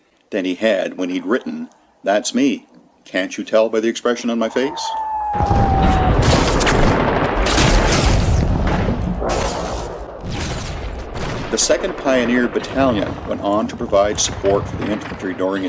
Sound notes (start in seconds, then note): 5.3 sound of a shell dropping, gunfire & explosions